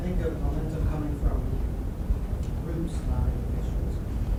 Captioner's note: voiceover